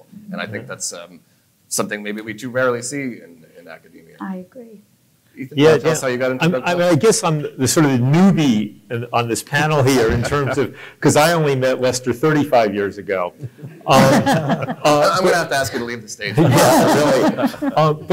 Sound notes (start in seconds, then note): 13.2 laughing